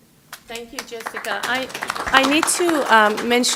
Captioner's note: applause